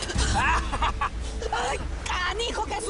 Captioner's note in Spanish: Risas